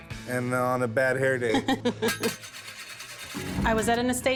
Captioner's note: laughs